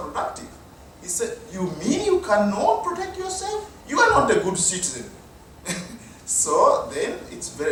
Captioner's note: chuckle